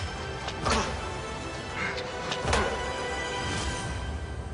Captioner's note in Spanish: Golpes